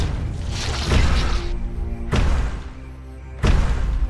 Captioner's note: sounds of giant footsteps